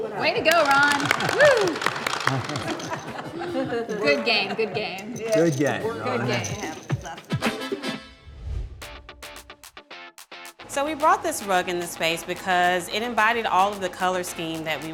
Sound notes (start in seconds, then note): 0.2 group applauds and cheers; 5.0 poker chips scattering; 6.3 bright music fades; 10.1 upbeat music